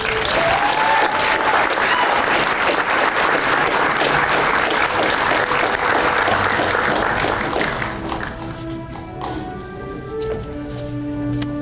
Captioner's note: applause and Cheers